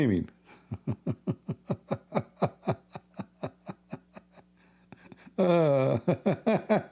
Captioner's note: Ketawa